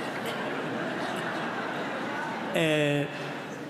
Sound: laughter

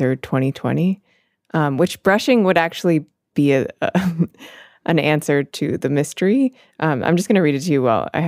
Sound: chuckles

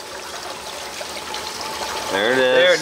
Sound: water running

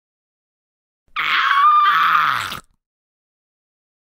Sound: sound of zombie

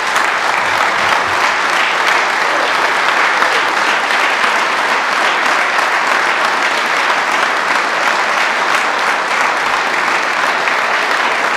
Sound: applause

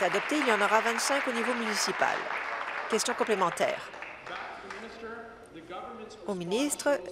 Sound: applause

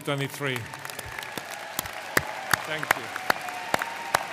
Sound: audience cheering and applauding

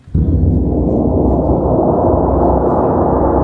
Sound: gong sounds

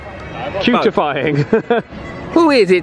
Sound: laughs

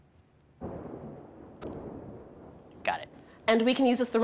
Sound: thunder

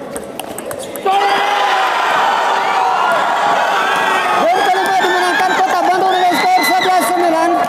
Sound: applause

